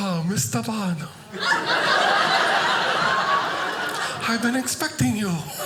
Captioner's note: audience laughing